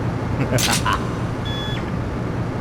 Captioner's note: laughter